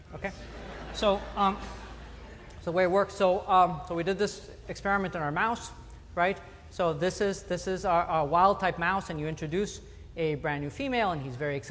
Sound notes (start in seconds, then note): 2.8 laughter